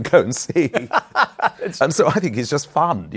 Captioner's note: laughter